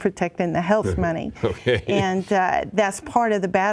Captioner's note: chuckling